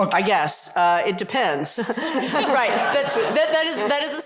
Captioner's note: laughter